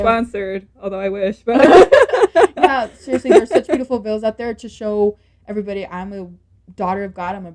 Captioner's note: laughter